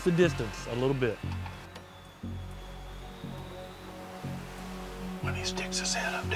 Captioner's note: whispering